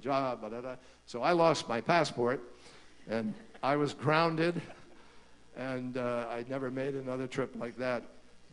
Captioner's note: laughter